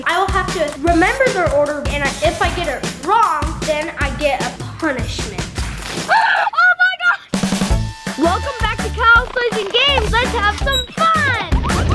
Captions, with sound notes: I will have to remember their order and if I get it wrong, then I get a punishment. (water splashes) Oh my god! Welcome back to Kyle's Toys & Games. Let's have some fun!